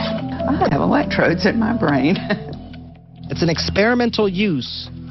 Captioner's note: laughs